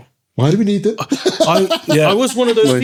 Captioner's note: laughing